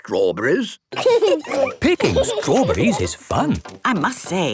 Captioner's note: laughing